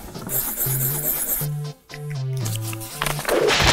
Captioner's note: scribbling